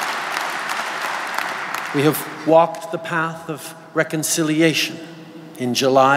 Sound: applause

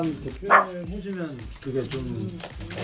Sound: puppy barks

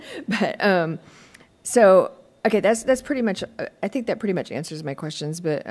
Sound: laughter

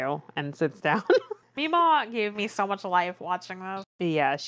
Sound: laughs

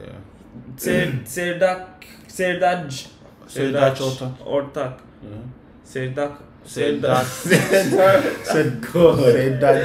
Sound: struggling to pronounce his name

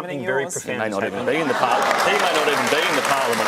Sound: applause

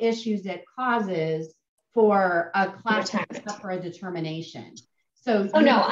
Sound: audio warps

